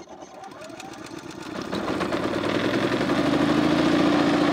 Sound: generator rumbles

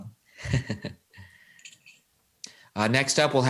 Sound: chuckles

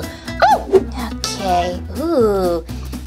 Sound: Gekko Giggles; Hand Grunts; Gekko Shouts

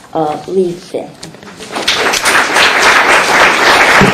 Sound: applause

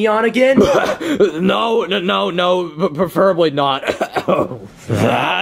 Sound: coughing

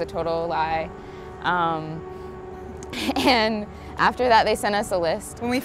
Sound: laughs

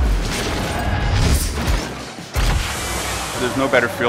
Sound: shooting

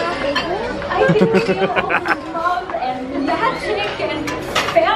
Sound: laughing

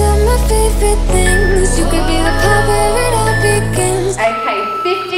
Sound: alarm beeping

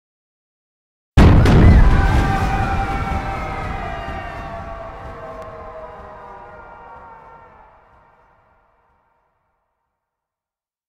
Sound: sound of people screaming

